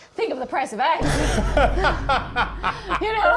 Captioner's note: laughs